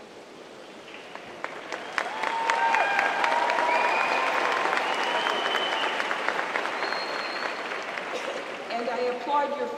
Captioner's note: cheers and applause